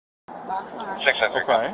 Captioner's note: radio chatter